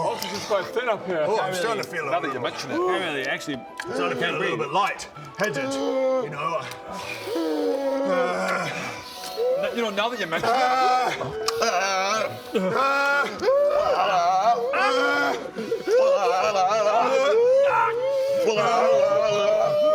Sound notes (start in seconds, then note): 7.2 urgggggggh; 12.5 hrggggh; 13.9 farm animal noises?; 15.8 hrgglgelelelele